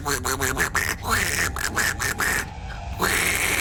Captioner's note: duck noises grow panicked; duck noises persist; long duck hiss